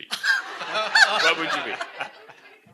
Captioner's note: laughter